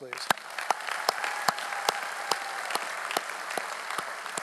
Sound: audience applauding

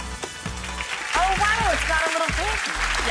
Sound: clapping

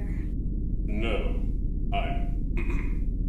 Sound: clears throat

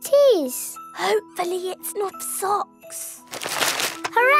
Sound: whispering

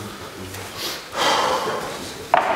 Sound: audible exhalation

